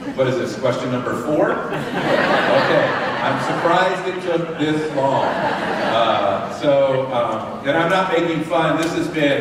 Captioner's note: laughter